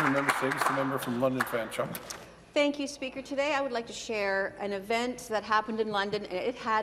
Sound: some applause

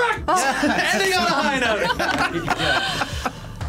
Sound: both laugh

